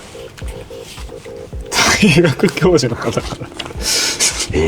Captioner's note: laughs